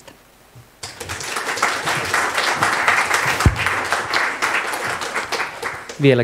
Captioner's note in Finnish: Aplodeja